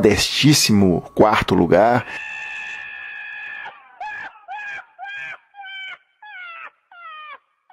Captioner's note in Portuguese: Risada muito escrachada